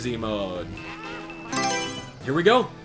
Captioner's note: Mario Selection Sound